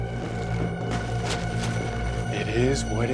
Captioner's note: tarp rustles